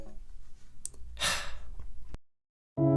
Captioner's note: sigh